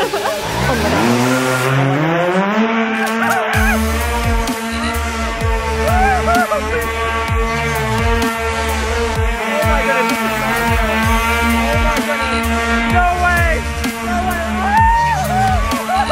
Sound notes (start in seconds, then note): 0.3 hoverboard buzzing; 2.9 screaming